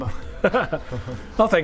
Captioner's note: laugh through the pain